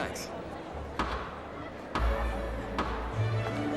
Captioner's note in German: Hämmern